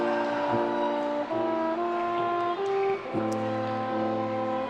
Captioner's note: attendees cheering